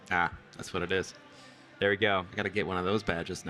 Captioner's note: none